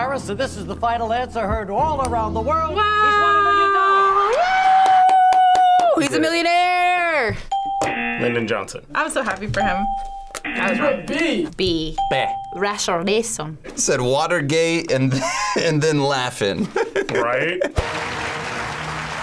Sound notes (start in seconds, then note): 7.5 bell rings; 7.6 buzzer; 9.6 bell rings; 10.4 buzzer